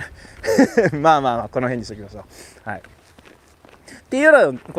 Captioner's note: laughs